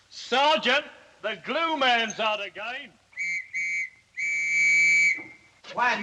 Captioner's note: whistle Blows